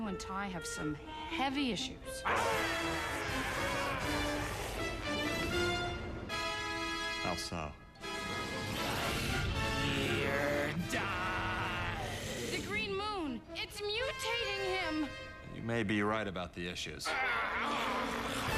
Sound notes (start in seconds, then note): 10.8 growling